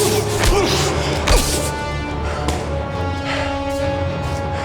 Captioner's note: suspenseful music; punches thudding